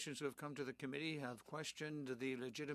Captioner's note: speaking in French